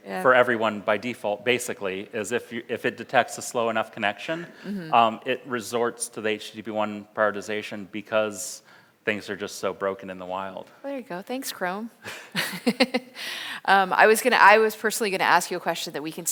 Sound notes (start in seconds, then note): 13.3 laughs